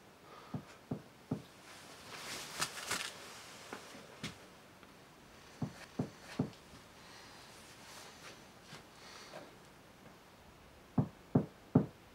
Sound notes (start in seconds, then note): 1.0 door knocking